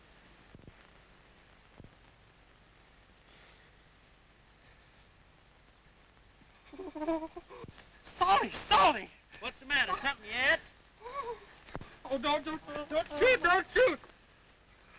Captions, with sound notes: (Briny whimpers) Salty! Salty! - What's the matter? Something you ate? - Oh, d-don't. Don't shoot, don't shoot!